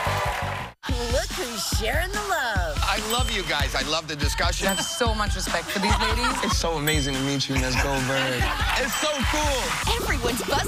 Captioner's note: cheers and applause